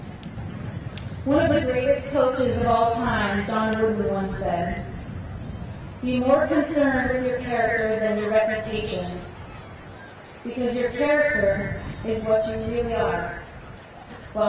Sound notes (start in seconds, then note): none